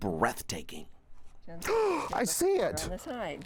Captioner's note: gasps